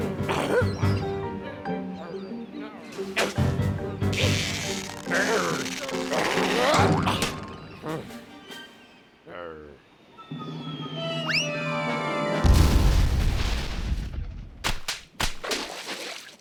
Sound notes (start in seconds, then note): 4.1 straining; 4.1 grunts; 7.8 sighs; 10.5 object whistling through air; 14.6 tentacles slapping